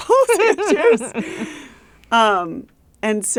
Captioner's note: laughs